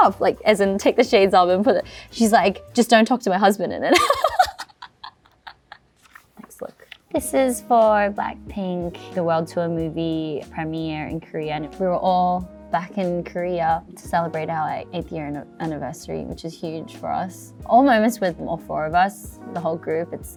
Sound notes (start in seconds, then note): 3.9 laughs